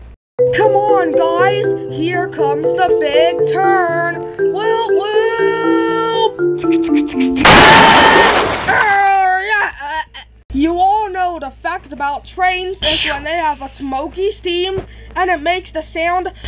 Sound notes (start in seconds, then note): 7.6 screaming